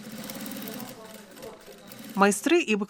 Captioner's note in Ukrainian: Звуки швейної машинки